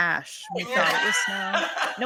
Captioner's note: laughs